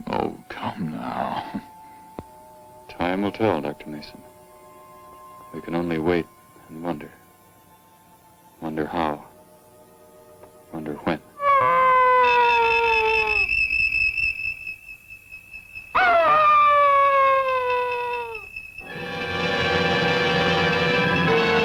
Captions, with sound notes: Oh, come now. Time to tell, Dr. Mason. We can only wait, and wonder. Wonder how. Wonder when. [ DOG HOWLING ] [ DOG HOWLING ] [ DISQUIETING MUSIC ]